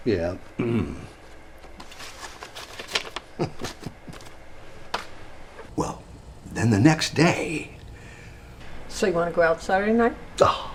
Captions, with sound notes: Yeah. (clears throat) (John chuckles) (envelope thuds) Well, then the next day... - So you wanna go out Saturday night?